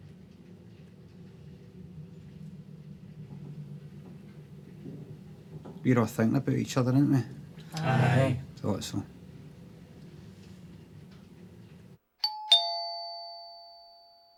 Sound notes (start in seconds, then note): 12.2 doorbell rings